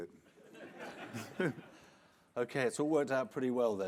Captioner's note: audience laughing